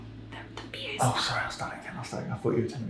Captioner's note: whispers